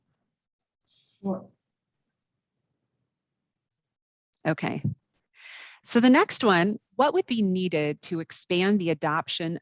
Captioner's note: brief silence